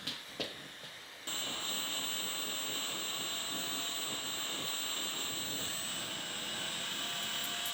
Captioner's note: drill whirring; blowtorch whooshing